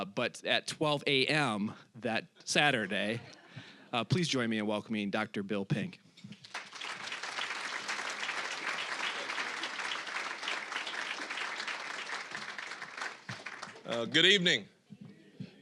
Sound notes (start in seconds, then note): 6.3 applause